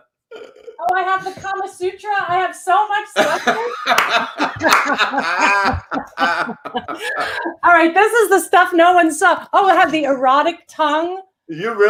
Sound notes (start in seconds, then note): 3.1 laughs